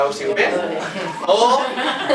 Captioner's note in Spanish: risas